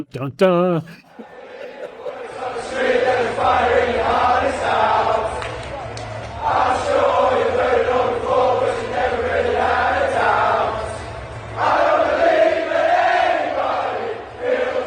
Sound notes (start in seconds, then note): 2.2 crowd chanting